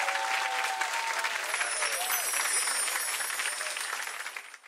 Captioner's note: chimes tinkling